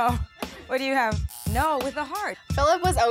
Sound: buzzer buzzes

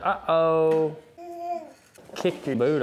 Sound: baby coos

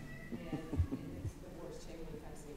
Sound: laughing

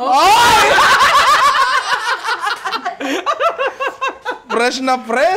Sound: laughter

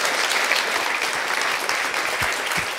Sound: applause

